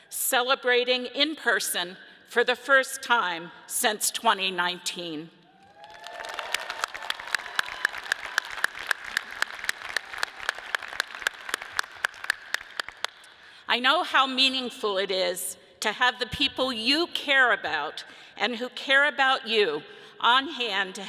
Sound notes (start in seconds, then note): 5.5 audience applauds and cheers